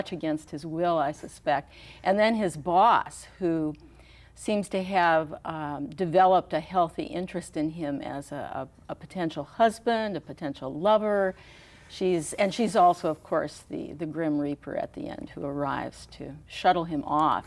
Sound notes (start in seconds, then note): none